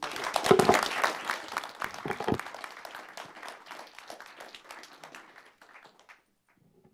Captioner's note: audience applause